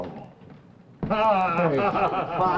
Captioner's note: Vito laughing